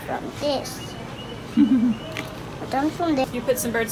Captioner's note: laughs